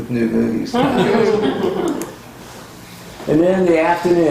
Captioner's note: laughter